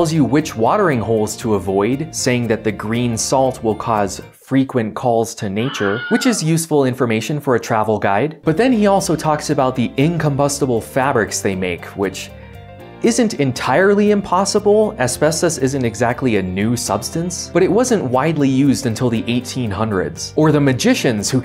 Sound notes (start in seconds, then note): 5.6 Wilhelm scream